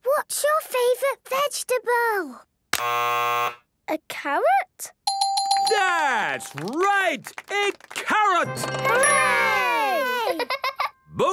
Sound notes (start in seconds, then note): 2.8 buzzes; 5.1 dinging